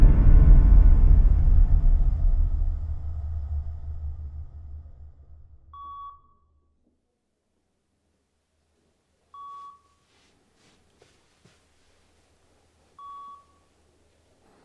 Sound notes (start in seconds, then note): 5.7 slow beeping